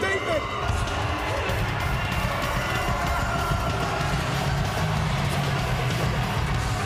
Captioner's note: crowd cheering; upbeat music